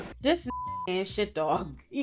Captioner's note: beep